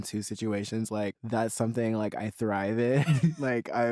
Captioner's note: laughs